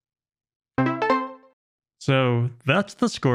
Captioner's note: success sound effect